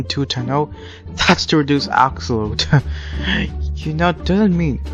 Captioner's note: chuckles